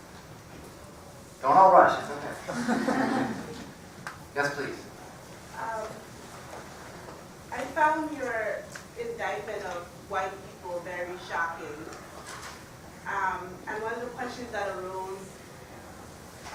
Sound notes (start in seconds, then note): 2.4 laugh